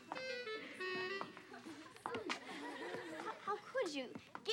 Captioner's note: plucky music; kids giggling